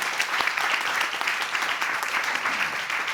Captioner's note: audience applauding